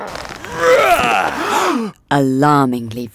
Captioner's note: Samson grunting; Samson yelling; crowd gasping